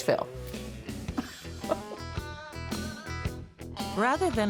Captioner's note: laughter